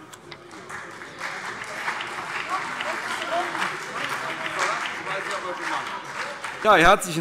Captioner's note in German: Beifall CDU und BÜNDNIS 90/DIE GRÜNEN